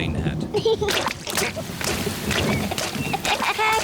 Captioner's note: giggling; thunder rumbling